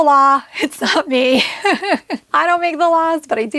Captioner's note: chuckles